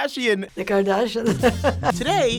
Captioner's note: laughs